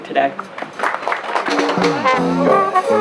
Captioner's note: applause